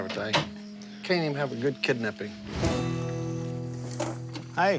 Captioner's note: crickets chirping